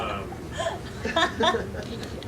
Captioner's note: laughing